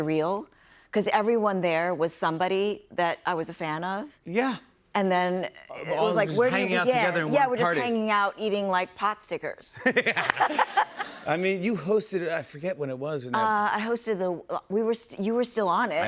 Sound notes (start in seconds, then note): 9.7 laughter